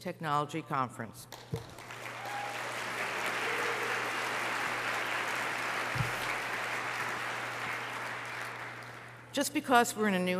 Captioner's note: applause